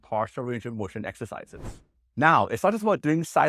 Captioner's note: air whooshes